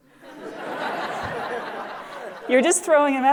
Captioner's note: laughter